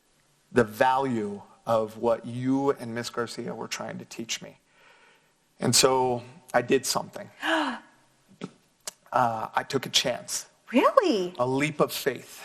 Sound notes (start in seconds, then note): 7.6 sighs